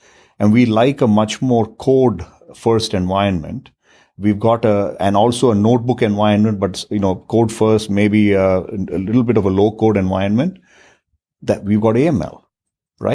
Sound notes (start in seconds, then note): 11.7 murmurs